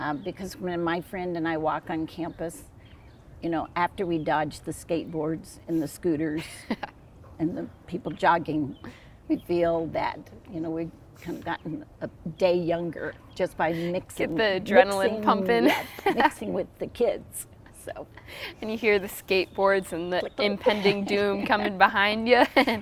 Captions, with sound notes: Because when my friend and I walk on campus, you know, after we dodge the skateboards and the scooters, and the people jogging, we feel that, you know, we could have gotten a day younger just by the mixing — - Get the adrenaline pumping (chuckles) - Mixing with the kids, so. - And you hear the skateboards and the impending doom coming behind you?